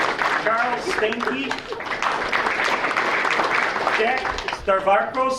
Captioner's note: audience applauding